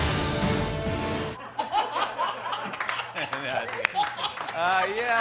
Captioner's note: laughs